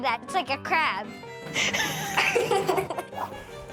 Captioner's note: laughter